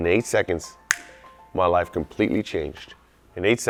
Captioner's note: snaps finger